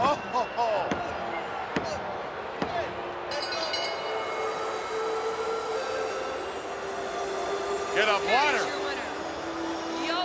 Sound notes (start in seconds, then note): 3.3 bell rings; 5.9 peaceful music